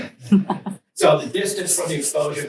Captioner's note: students chuckle